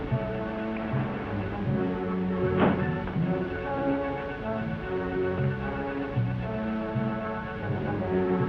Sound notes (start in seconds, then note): 2.4 car door closes